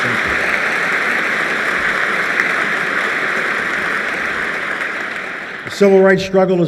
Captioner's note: applause